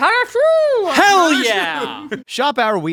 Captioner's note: chuckles